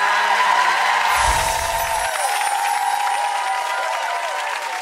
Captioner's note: audience cheering